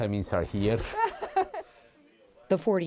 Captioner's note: laughter